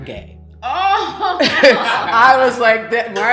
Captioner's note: everyone laughing